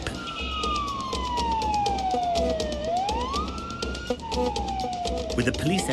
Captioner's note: police Siren